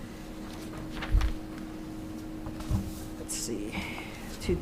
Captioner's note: paper rustles